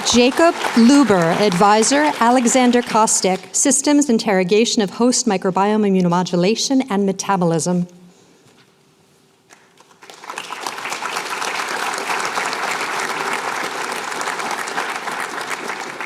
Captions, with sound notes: Jacob Luber. Advisor, Alexander Kostek. Systems Interrogation of Host-Microbiome Immunomodulation and Metabolism. [APPLAUSE]